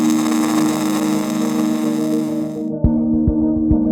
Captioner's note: drill whirring